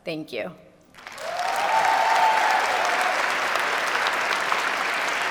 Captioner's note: applause and cheering